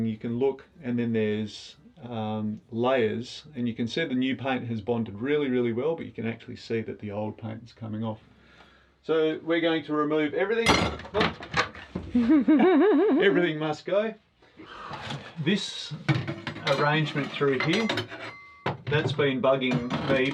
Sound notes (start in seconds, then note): 12.1 laughs